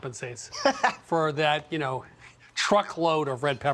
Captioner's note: laughs